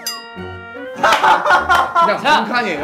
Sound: bursts out laughing

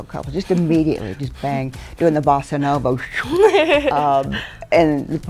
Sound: whooshes; laughter

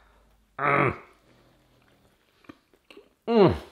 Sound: grunts

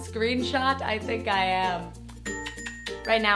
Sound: smooch

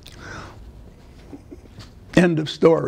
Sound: laughter

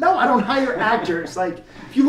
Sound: laughs

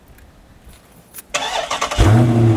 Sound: engine start sound; engine exhaust sound

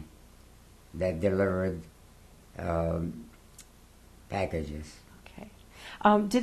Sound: pauses for 3 seconds

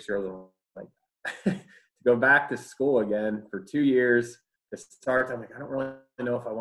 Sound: laughs

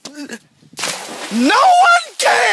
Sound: splash

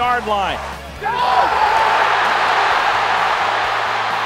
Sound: cheering

